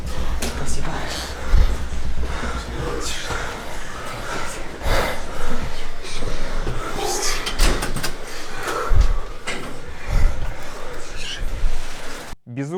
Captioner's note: heavy breathing